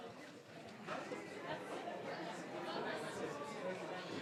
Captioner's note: audience speaking